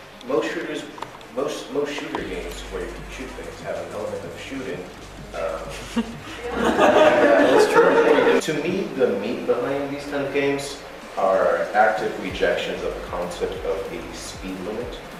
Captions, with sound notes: Most shooters- more shooter games where you can shoot things have an element of shooting. [Laughter] To me, the meat behind the kind of games are active rejections of the concept of a speed limit.